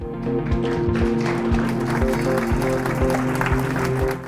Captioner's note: applause